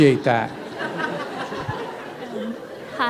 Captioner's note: laughter